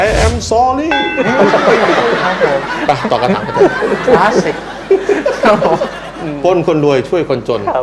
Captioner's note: laughing